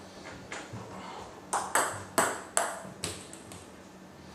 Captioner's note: ball ping pong hitting